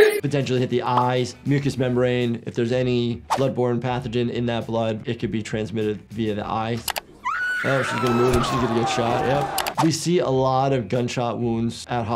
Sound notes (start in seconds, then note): 6.8 mouse clicks; 7.2 woman shrieks; 7.2 crowd clamoring; 9.4 mouse clicks